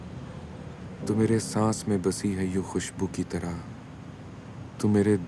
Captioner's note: Iffy recites poem